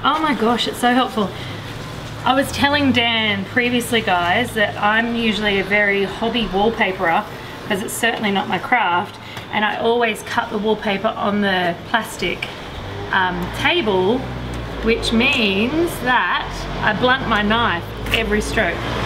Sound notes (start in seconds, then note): none